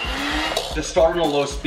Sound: mixer whirling

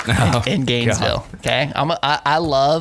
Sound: chuckles

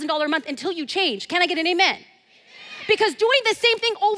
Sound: crowd

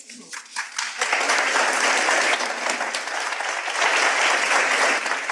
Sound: audience applauds

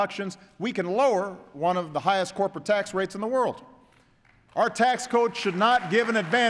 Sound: applause

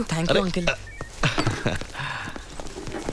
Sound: chuckles

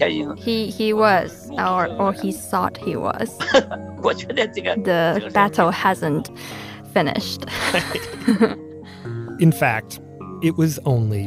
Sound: speaking Mandarin; laughs

